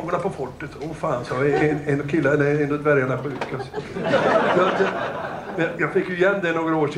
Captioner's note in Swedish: Skratt